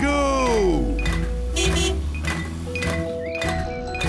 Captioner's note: horn honks